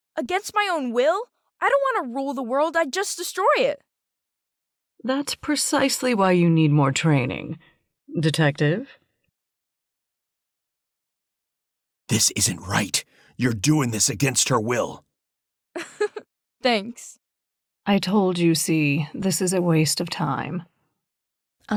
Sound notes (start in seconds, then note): 15.8 giggles